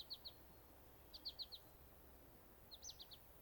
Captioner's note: birds chirping